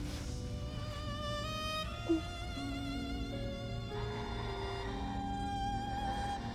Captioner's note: gentle music continues; Kira sobbing